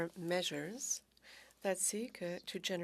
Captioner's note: speaking French